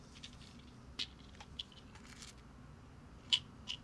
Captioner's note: pills rattling